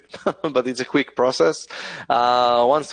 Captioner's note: laughs